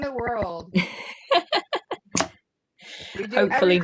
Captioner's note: laughter